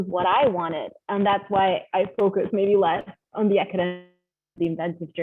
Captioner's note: audio freezes